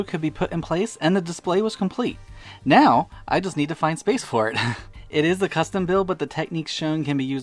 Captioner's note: ha-ha